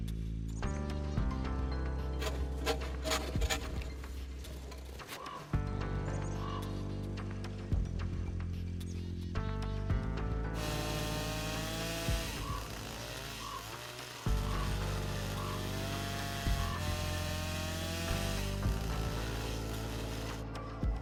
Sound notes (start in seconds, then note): 0.1 serious music; 2.1 saw grating; 10.7 chainsaw buzzing